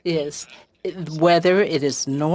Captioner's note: speaking French